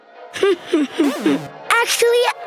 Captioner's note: chuckles